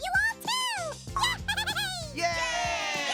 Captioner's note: Marshmallow laughs